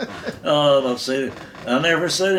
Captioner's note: both laughing